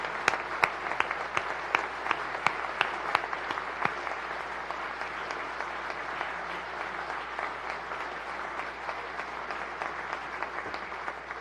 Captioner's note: applause